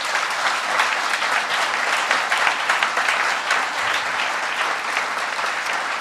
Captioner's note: applause